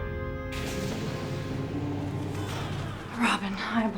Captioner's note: Holodeck doors opening